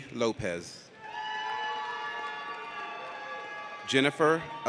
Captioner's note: audience cheers